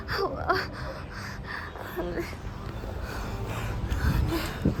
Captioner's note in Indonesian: terengah-engah